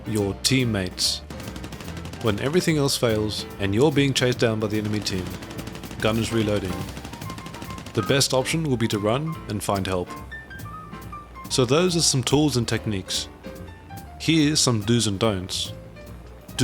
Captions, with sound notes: Your teammate. When everything else fails and you're being chased down by the enemy team, (Gunners reloading,) the best option will be to run and find help. So, those are some tools and techniques. Here's some do's and don'ts.